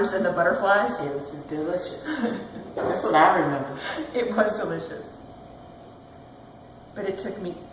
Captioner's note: laughing